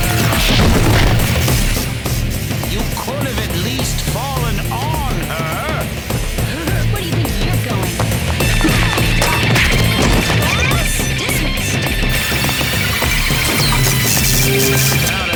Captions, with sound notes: Whoa! [thud] You could have at least fallen on her. Where do you think you're going? [fighting noises] Class dismissed.